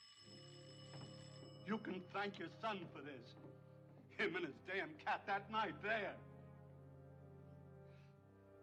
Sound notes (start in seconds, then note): 0.0 ringing Continues